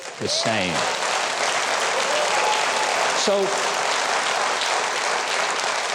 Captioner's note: audience applauding and cheering